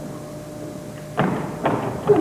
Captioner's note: stomping